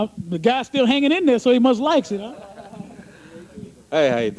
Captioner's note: laughter